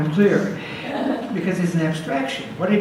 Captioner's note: audience laughs